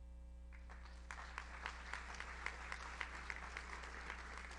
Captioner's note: audience applauds